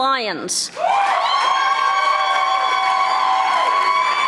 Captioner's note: audience applauding